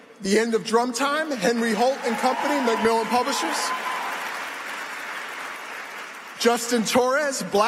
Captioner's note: applause